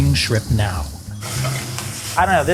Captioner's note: shrimps sizzling